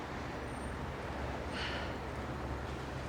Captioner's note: sighs